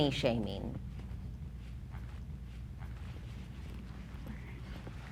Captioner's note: footsteps clomping